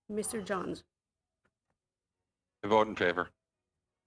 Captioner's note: speaking in French